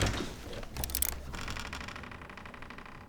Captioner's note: door creaking open